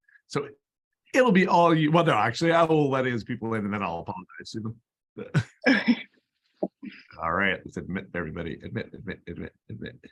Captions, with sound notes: It will be whether there actually, I will let all this people in them at all upon [LAUGHTER] let's admit everybody. Admit.